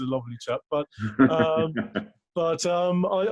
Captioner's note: laughs